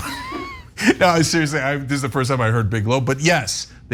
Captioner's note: laugh